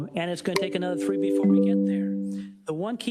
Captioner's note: timer beeps